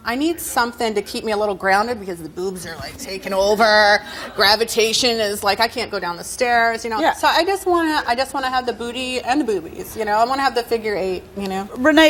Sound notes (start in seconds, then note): none